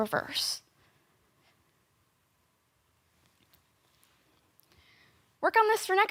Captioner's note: soft breathing